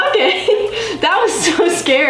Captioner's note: laughs